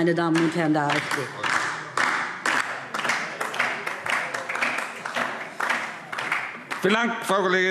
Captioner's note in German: Beifall DIE LINKE